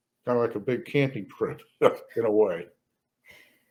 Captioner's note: laughs